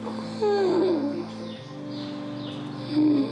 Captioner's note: wheezes